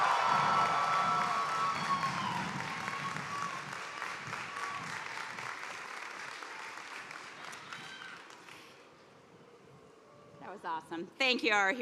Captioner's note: cheers and applause